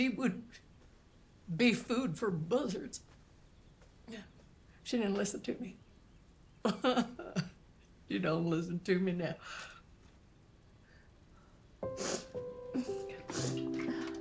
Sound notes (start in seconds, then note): 6.8 sobs; 11.8 Carlene sniffling